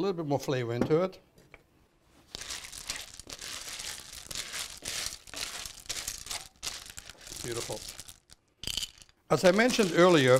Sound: crackling

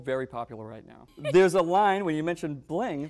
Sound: laughing

